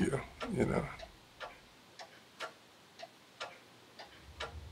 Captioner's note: clock ticking